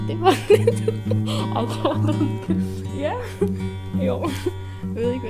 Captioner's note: laughs